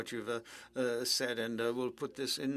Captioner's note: speaking French